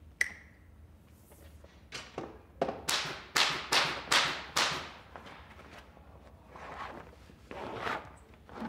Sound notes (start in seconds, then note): 2.7 rhythmic stapling